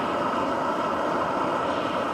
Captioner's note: hissing